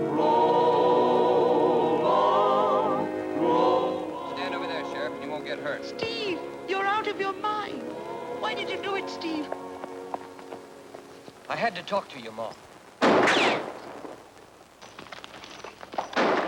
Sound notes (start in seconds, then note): 13.0 guns firing